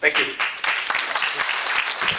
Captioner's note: applause